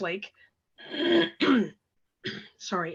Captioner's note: clears her throat